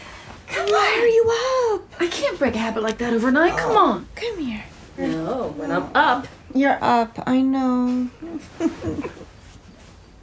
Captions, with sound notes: - Come on. - Why are you up? I can't break a habit like that overnight. Come on. - Come here. - No. Up. You're up. I know. [sobs]